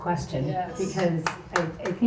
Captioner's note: crowd